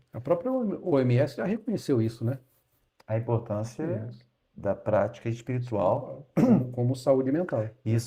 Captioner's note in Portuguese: limpando a garganta